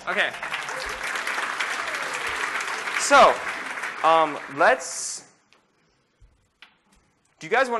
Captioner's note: applause